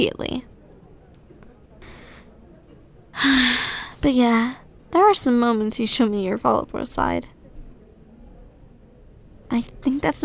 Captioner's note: sigh